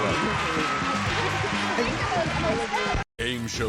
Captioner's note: indistinct conversation